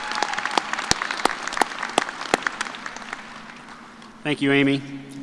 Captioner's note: cheers and applause